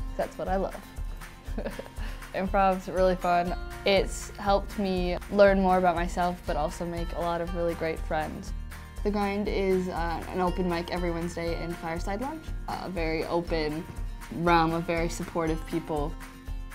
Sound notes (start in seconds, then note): 1.6 laughs